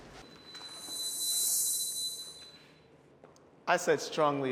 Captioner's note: pitch whirring